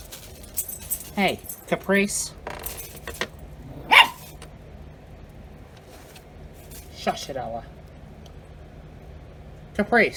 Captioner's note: Ella barks